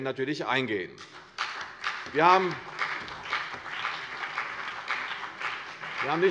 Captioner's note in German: Beifall CDU und BÜNDNIS 90/DIE GRÜNEN